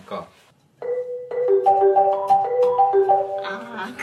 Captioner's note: iPhone ringtone plays